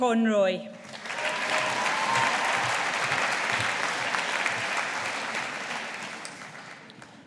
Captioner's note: audience applauding